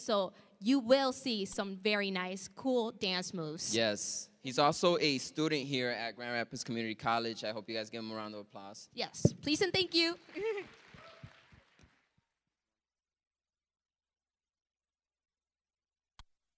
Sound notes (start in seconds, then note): 11.2 laughing; 11.9 applause